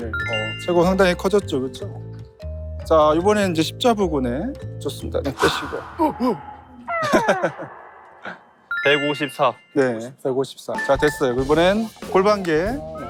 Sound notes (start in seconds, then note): 5.3 tail swoosh